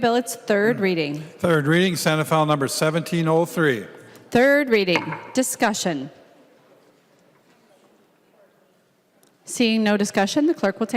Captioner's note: gavel